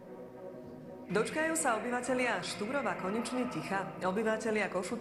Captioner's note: voice of reporter